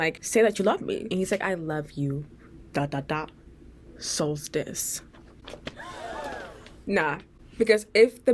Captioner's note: crowd gasp